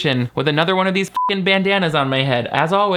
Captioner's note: beep